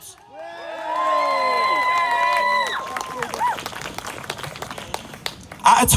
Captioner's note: cheers from crowd